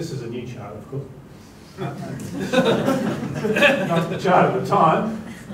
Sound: laughter

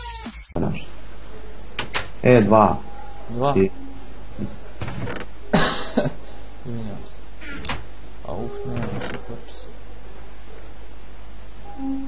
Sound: coughing

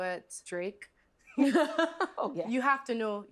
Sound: both laughing

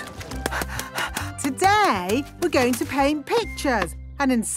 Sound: panting

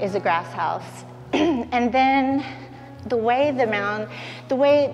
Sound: clears throat

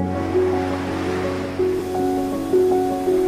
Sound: wind gusts

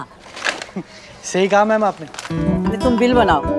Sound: chuckles

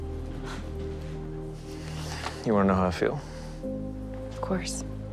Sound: exhales deeply

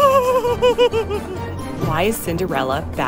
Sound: laughing

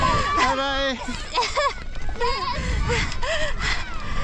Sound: laughing

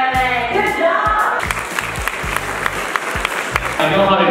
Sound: applause

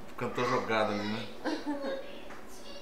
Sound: laughs

